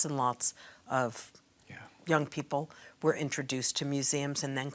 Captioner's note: quietly